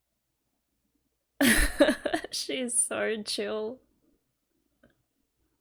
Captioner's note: laughs